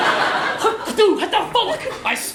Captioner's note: upset in “Czech”